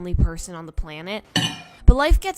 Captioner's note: glass hits mirror